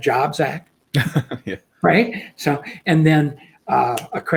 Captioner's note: laughs